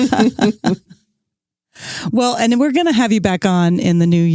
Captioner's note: laughs